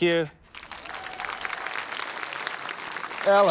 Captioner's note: applause